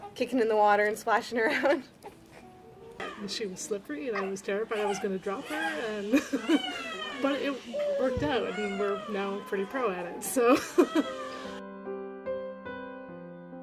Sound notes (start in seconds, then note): 1.4 laughter; 6.1 laughter; 10.4 laughter; 13.4 soft piano music